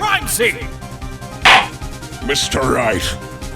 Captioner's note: gavel slams!